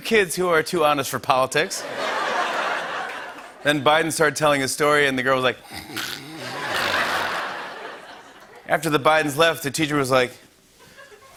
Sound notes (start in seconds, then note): 1.8 laughter; 5.6 snoring; 6.4 laughter